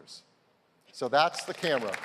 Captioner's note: applause